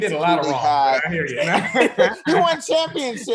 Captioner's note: chuckles